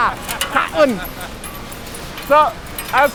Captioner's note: laughing